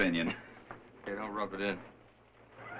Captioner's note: laughs